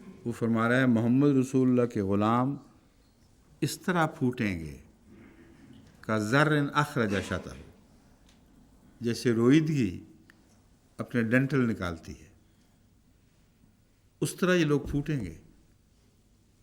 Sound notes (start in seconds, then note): 5.2 Arabic